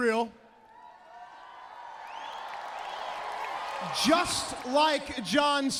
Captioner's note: crowd cheering